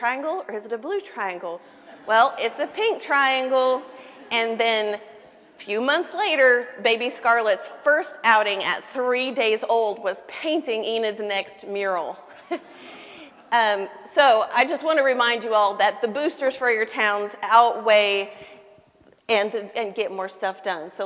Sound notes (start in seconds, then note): 1.7 laughter